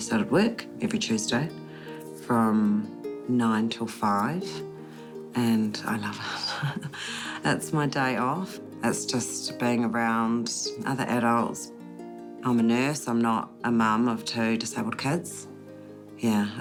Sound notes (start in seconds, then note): 6.4 chuckles